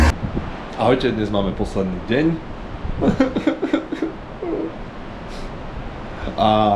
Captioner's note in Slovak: smiech